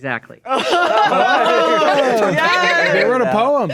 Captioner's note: players laughing